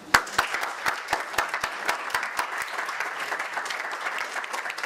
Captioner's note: audience applause